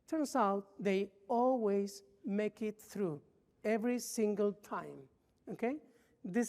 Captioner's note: none